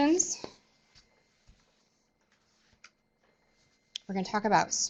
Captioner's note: no sound - waiting for questions